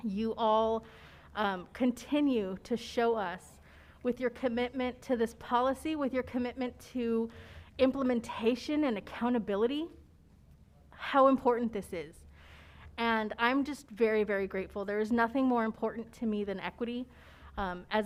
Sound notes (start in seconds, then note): none